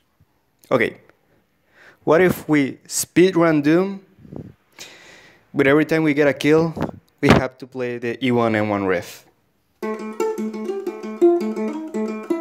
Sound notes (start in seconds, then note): 4.2 intake air